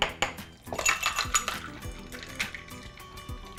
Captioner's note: ice clinks